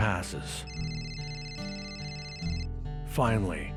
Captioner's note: phone ringing